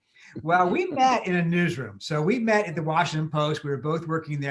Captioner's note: laughs